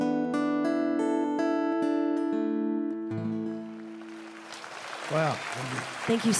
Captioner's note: applause; song ends